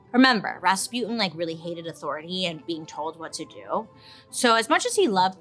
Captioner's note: none